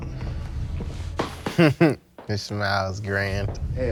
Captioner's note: chuckles; laughs